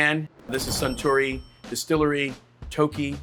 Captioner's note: cash register dings